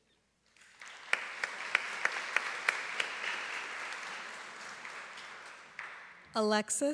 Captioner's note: applause